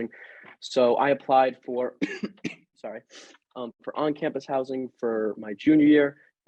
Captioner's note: coughs